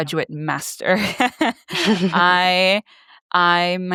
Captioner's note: laughs